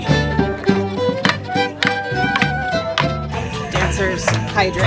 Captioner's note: dancers knock sticks together on the beat